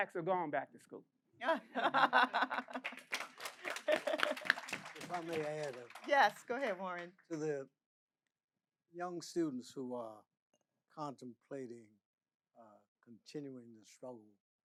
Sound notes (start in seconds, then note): 1.5 audience laughing; 2.0 audience applauding